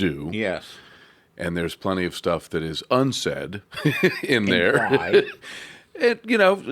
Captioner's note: laughs